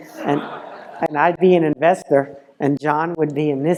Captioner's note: laugh